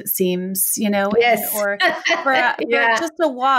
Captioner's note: laughs